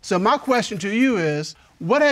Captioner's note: none